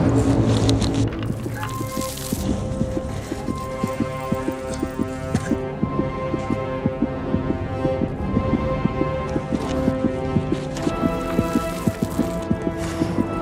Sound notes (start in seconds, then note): 2.4 heartbeat racing; 8.3 music intensifies